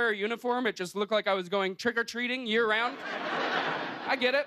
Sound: laughter

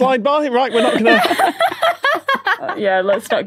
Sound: guests laughing

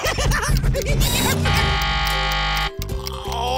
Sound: laughing; buzzer ringing

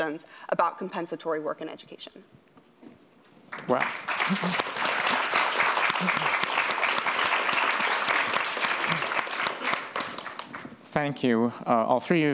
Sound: applause

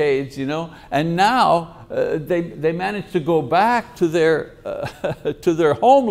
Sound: laughs

